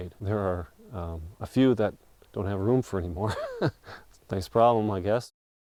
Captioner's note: laughing